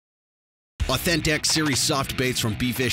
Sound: voiceover

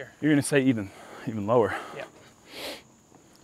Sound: none

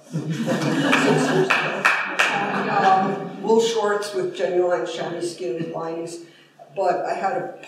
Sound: applause

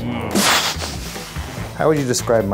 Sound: mouth explosion noise

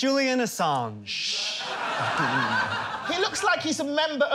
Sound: laughter

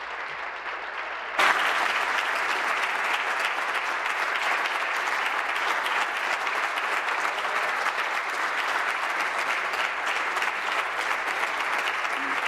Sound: applause

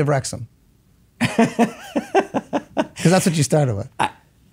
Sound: Glenn laughing

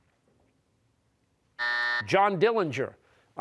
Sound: buzzer

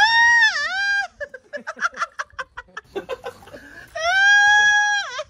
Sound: laughing

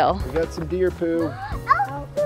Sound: kids gasp

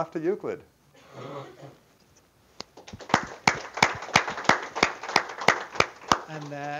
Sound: applause

